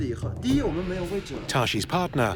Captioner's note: speaking Tibetan